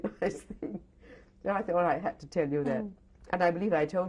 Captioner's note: laughs